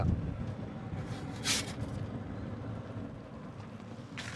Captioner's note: sound of pizza peal on the pizza stone and crisp pizza sliding on the table